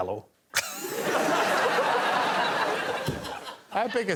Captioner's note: laughter